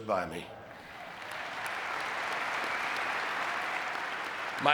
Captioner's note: audience clapping